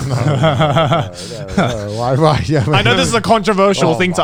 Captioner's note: laughs